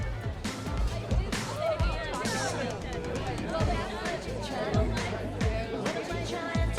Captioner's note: groovy music; people chattering